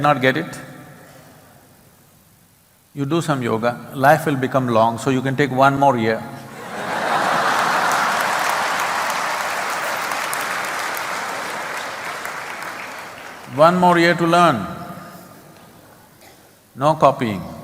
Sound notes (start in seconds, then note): 6.5 laughter/Applause